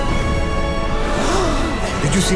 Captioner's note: gasping